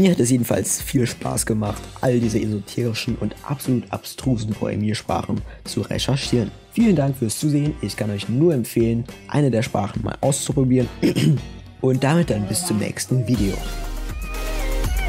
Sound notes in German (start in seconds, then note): 10.9 hust